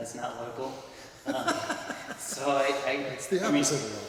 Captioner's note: laughs